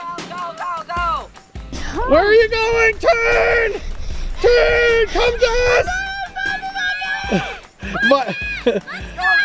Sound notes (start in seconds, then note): 6.1 family cheering